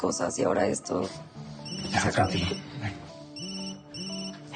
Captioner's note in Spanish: Suena el celular